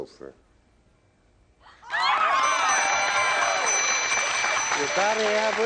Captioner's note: cheering